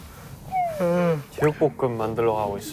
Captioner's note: yawn